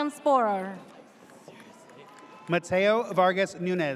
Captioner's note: audience cheers